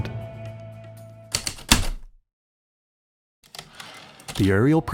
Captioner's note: typewriter keystroke, return slide